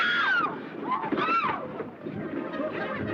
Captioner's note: screams